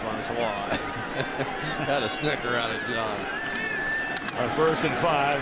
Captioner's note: laughs